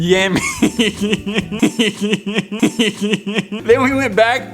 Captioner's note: little boy laugh